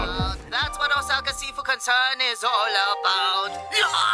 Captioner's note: grunts